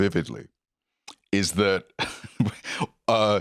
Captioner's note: laughs